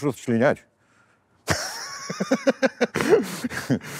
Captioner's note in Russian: смеется